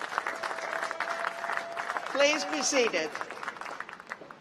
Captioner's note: applause